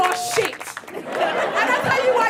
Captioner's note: audience laughing